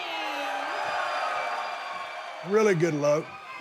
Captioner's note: audience cheers